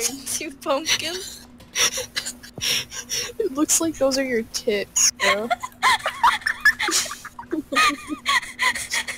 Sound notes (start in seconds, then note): 5.2 laughs